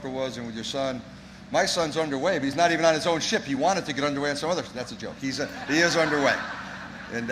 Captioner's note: laughter